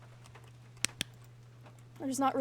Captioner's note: flashlight Clicks Off